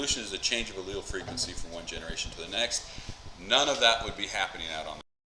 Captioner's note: mic cuts out